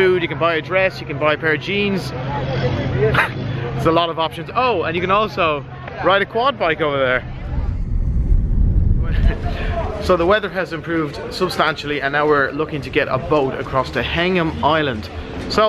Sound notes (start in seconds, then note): 9.3 chuckles